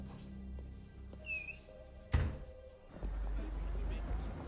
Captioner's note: door creaks, closes